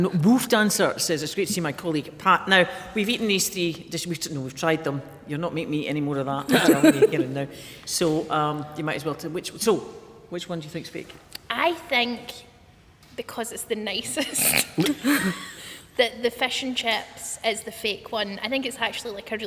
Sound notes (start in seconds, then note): 6.5 laughter